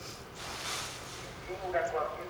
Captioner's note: sighs